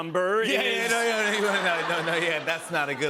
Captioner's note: laughter